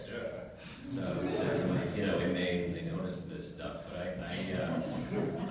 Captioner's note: laugh